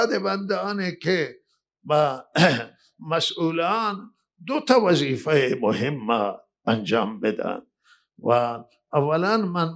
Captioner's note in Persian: گلویش را صاف می‌کند